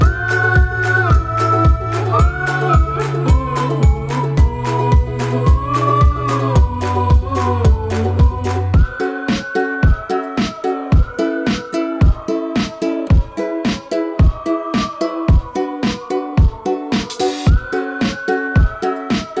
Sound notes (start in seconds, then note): 8.8 whistling